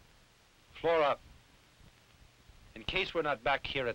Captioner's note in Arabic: none